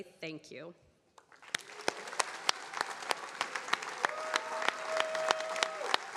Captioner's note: attendees cheering and applauding